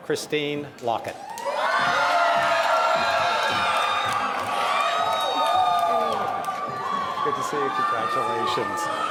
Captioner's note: applause